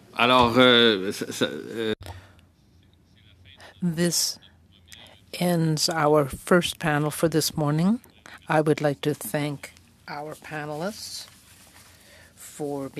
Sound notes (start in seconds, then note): 6.8 speaking French